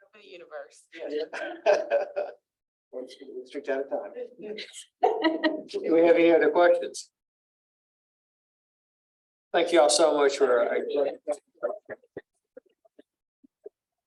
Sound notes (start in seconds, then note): 1.0 laughter; 4.6 laughter